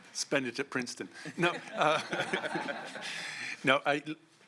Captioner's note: laughter